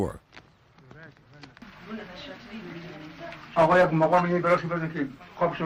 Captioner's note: speaking foreign language